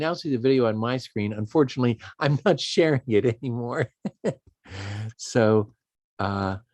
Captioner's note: laughs